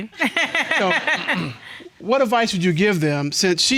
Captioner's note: laughing